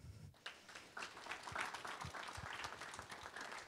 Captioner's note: applause